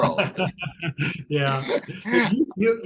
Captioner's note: chuckles